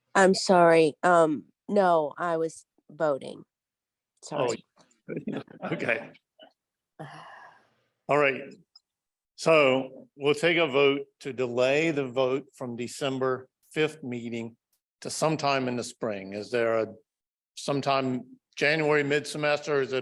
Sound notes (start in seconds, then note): 5.1 laughs